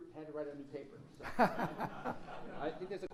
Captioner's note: laughs